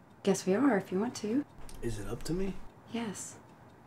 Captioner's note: none